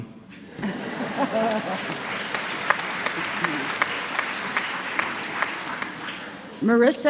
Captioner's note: applause